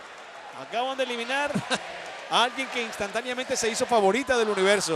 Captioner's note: laugh